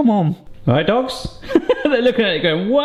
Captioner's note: laughs